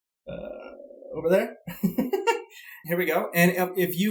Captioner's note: laughs